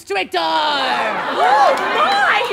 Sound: audience laughter

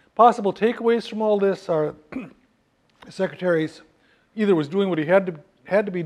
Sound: cough

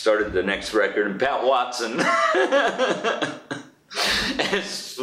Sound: laughs

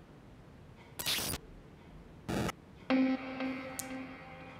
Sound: sudden electronic sound

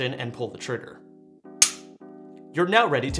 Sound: gun clicking

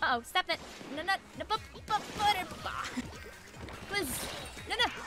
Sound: groans

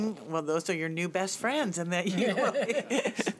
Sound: laughing

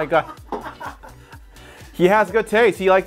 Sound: man laughing

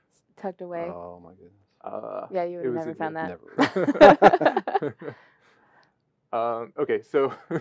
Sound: laughter

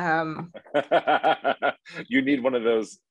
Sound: laughs

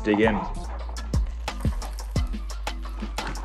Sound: chewing

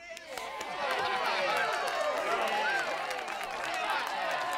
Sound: crowd cheering

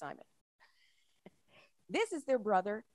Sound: chuckles

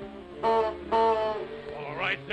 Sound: goose Honks

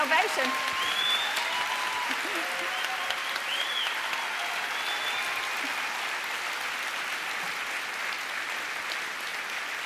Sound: applause and cheering

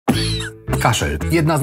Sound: coughing

